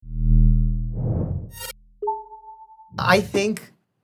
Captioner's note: image beeping; image whooshing